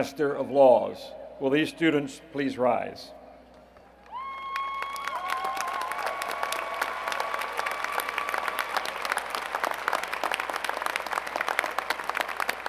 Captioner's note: applause